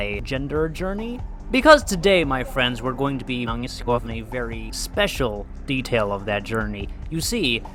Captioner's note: celebrating